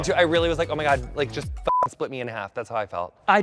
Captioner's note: beep